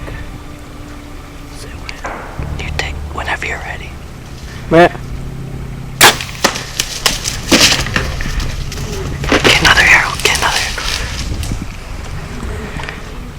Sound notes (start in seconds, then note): 6.0 sound of bowshot; 6.1 sound of running